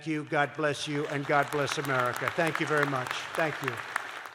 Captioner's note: applause